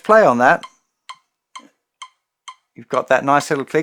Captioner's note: metronome clicks